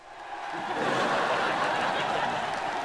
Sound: distant screaming

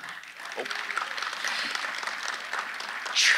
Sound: audience applauding

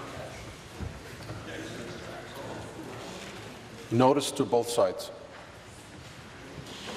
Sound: conversation din

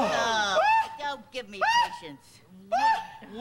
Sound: exclamations of shock, disgust, horror, disillusionment

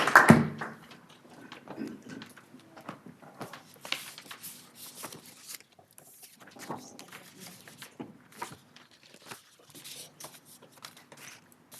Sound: applause

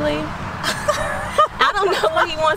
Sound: woman laughing

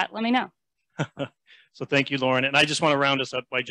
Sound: brief laughter

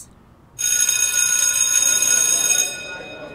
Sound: college bell rings

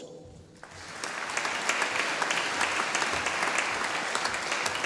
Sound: audience applauding

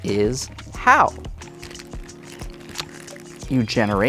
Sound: plastic bag crinkling

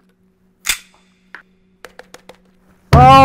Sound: tap tap

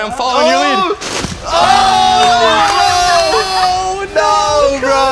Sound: buzzer

